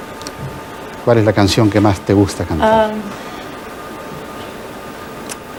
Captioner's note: speaking foreign language